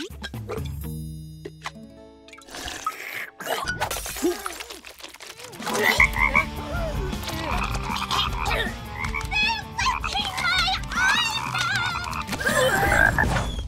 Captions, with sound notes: [croaking] They're licking my eyeballs! [croaking]